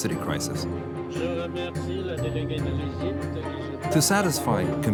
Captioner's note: man speaking in foreign language